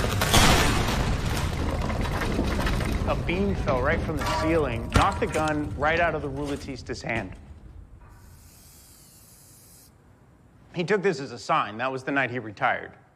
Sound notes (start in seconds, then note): 0.0 rattling, crashing; 8.1 whirring